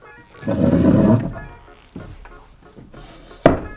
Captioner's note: chair scrapes